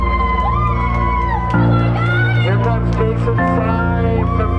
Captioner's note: crowd cheering